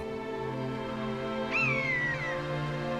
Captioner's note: calls